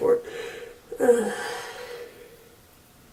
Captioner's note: sighs